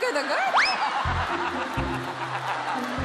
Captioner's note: crowd laughing